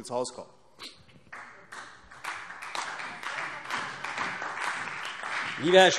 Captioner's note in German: Beifall CDU und BÜNDNIS 90/DIE GRÜNEN